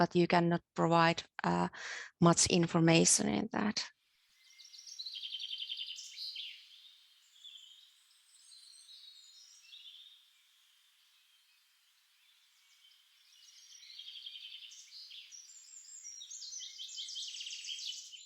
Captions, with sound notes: but you cannot provide much information. [Birdsong]